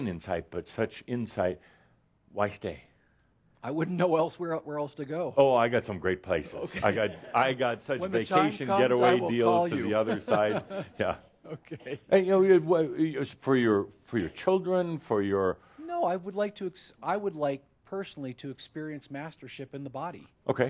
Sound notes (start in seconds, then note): 7.1 he chuckles; 12.1 they chuckle